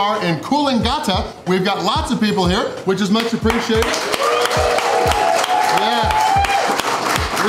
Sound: crowd cheering

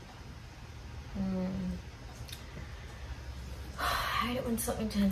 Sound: breathes out heavily

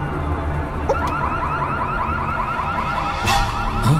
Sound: car Indicator Sound

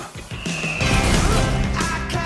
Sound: explosion

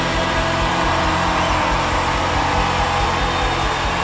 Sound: crowd cheering

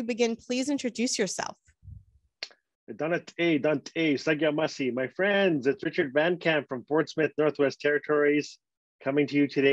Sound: foreign Language

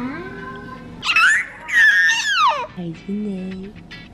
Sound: squealing

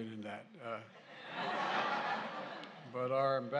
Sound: laughter

